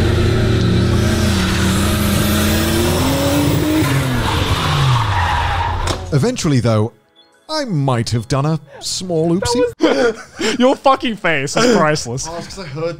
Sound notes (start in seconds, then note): 2.7 tires screeching; 7.0 whimsical chiming music